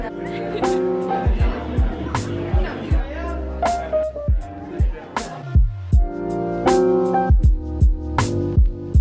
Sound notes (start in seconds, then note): 0.0 giggles; 2.1 chatter